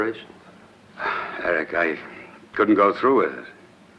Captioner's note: sighs